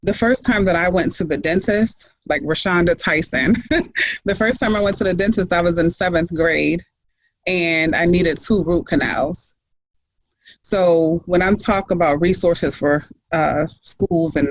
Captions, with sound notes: The first time that I went to the dentist like Rashaunda Tyson (laughs) The first time I went to the dentist I was in seventh grade and I needed two root canals. So when I'm talking about resources for schools